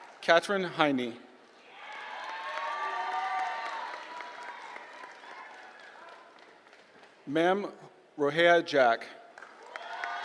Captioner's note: applause; applause